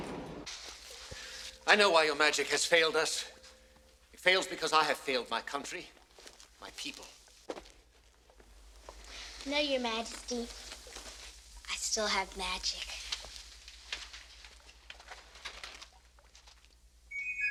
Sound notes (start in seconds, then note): 1.6 door slams shut